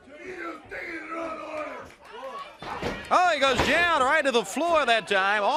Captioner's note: crowd chatter